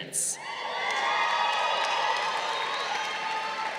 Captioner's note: crowd cheering